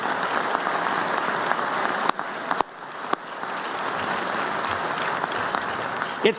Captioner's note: applause